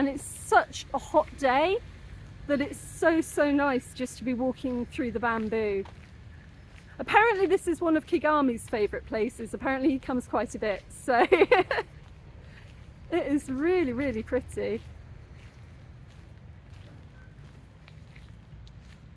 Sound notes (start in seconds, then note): 11.2 laughing